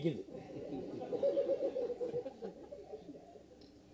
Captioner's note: laughter